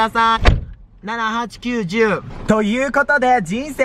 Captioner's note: door slams